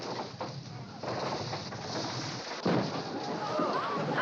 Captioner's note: clattering; people Gasping